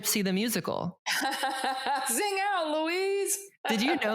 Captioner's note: laughs